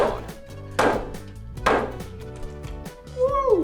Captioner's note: hammer banging